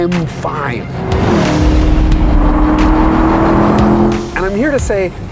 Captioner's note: FINALLY we get to hear an engine screaming, and what a noise! #S62eargasm